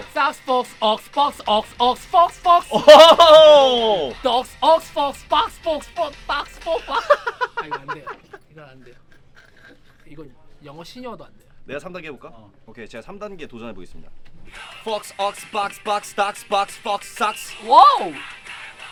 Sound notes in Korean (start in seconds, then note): 7.6 낄낄